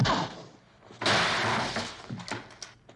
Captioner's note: crash; whack